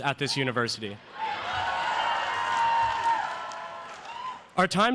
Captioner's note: applause